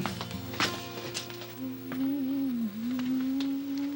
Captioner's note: humming